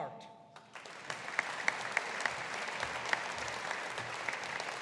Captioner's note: audience applauding